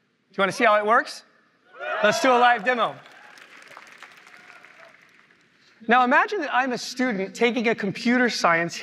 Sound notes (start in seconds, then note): 1.7 cheering; 2.2 applause